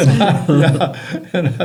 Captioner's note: laughter